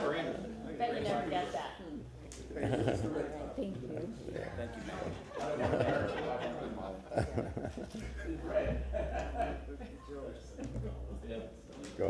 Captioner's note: laughter